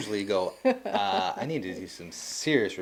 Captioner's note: laughing